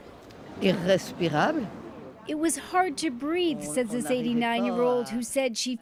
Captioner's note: speaking French